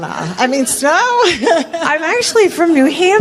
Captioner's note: laughter